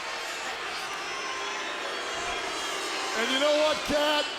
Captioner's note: crowd boos